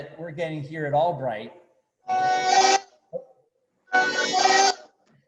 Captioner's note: phone ringing